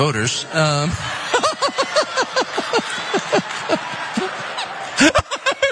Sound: laugh

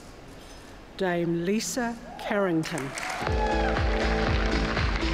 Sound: cheers, applause

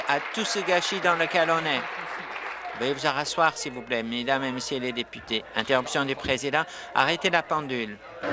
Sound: applause

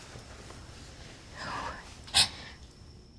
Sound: inhales sharply

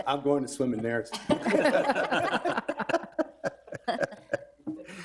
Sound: room laughing

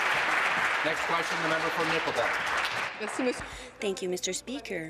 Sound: applause

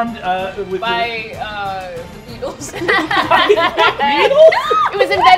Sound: all laughing

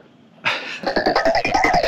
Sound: laughing; upbeat music

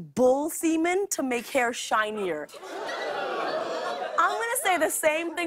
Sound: audience groans

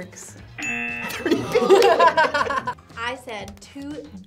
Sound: both laugh

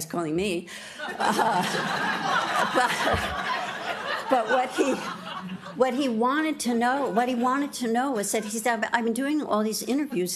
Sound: laughter

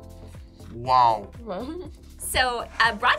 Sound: laughs

